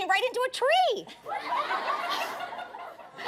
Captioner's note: laughter